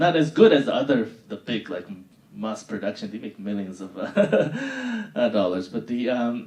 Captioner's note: laughing